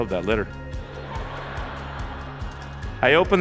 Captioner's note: laughter